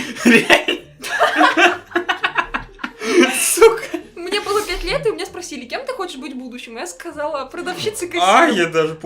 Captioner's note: laugh